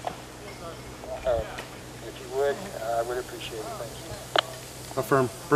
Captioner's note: radio traffic